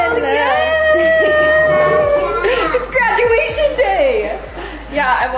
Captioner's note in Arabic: يضحكان